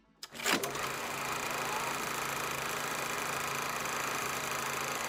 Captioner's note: projector playing